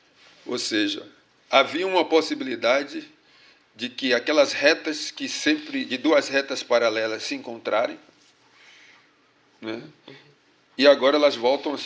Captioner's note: speaking portuguese